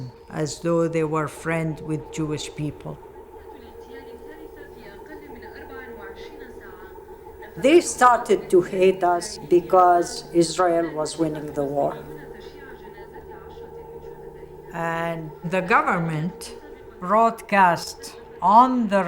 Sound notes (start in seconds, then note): 3.8 radio transmission